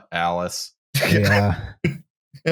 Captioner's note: laughter